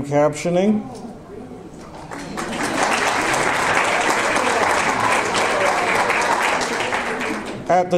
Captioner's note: audience applause